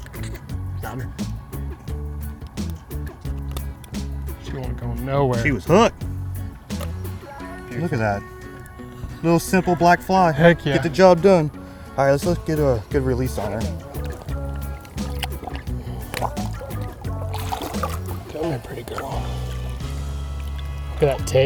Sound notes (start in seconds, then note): 0.1 fun upbeat music; 14.3 fun upbeat music; 17.6 water splashing